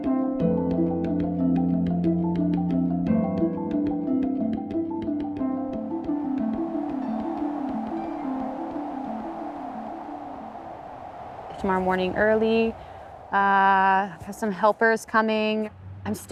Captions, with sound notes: (calming music) (wind blowing) Tomorrow morning, early, I have some helpers coming.